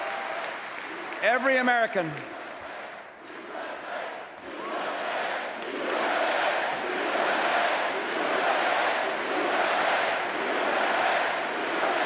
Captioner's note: applause